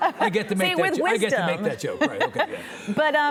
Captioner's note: laughing